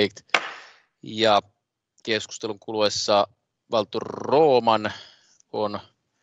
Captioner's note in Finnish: nuijan kopautus